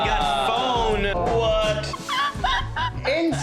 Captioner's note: laughter